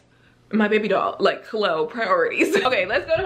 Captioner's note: laughs